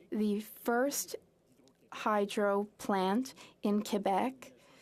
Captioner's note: speaking French